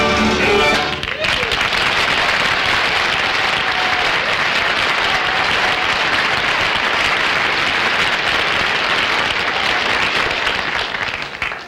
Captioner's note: audience Applauding